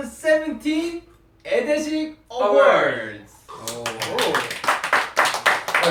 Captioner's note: clap